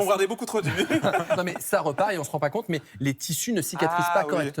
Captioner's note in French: rires